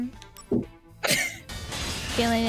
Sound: friend wheeze

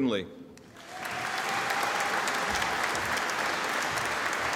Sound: audience applauding

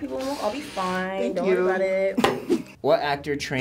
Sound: laughs

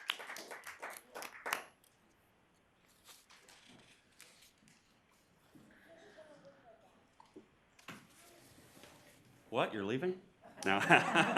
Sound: applause

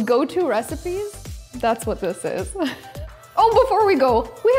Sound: chuckles

